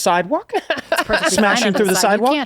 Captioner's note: she laughs